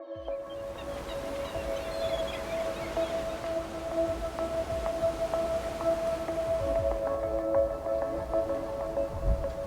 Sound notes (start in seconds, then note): 0.2 birds chirping; 0.2 waves whooshing; 5.0 slow relaxing music